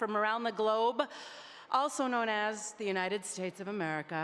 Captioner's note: none